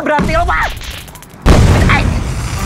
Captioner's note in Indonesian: boom